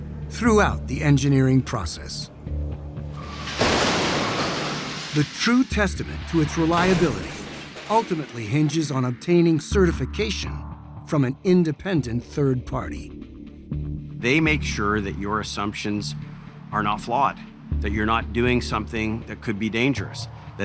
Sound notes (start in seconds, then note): 3.2 car loudly crashing